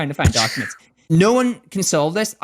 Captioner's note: makes head explosion sound